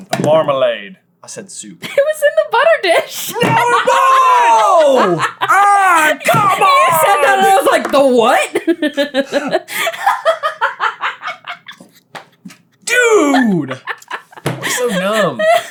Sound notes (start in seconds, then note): 3.2 cracking up; 8.4 legitimately laughing as hard as the rest of us are